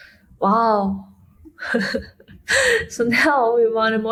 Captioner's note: laughing